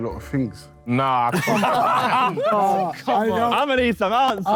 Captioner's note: Sidemen laugh